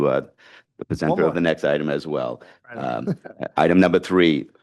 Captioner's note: laughs